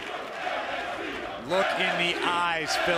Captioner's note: fans chanting